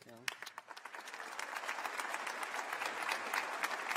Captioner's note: applause